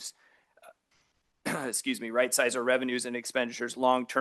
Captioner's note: clears throat